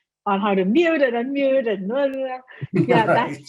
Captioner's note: babbling